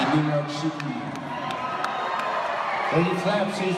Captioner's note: regular audience noises